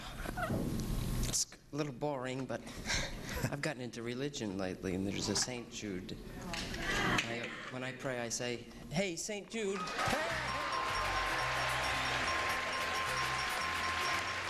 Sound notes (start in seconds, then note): 9.8 voices yelling